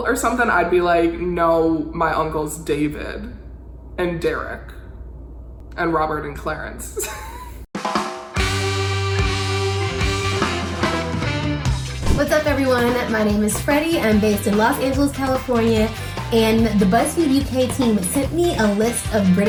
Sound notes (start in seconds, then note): 6.9 laughs; 7.9 upbeat music